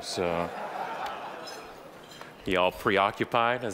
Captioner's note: audience laughing